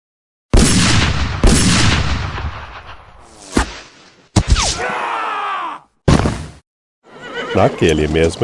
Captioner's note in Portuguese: grito